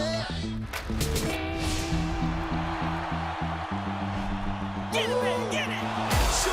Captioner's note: cheers and applause